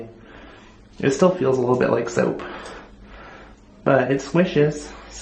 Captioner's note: none